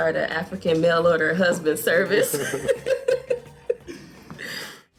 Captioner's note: laughing